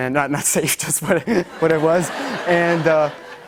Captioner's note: laughter